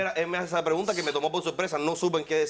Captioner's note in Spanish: Hablan al unísono